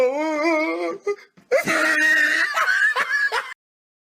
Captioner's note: guffawing